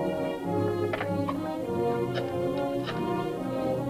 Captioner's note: phone clatters